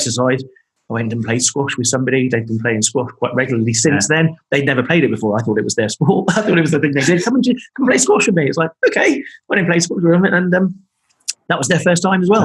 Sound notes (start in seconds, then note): 5.8 laughing